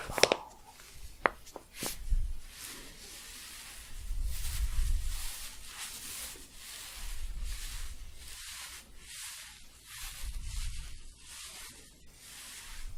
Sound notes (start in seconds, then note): 1.6 staticky shuffling and crinkling